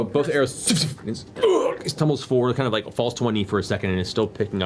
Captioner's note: impact sound